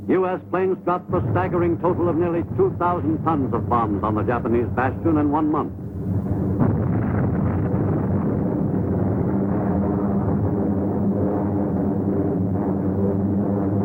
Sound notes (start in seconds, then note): 7.2 airplane engine roaring; 7.2 explosion rumbles